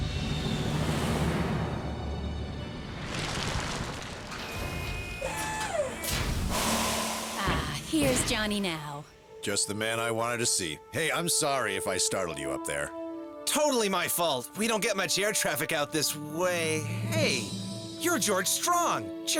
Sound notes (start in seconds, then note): 3.8 debris scatters as plane slows; 5.1 mechanical whirring